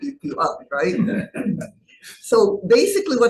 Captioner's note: laughing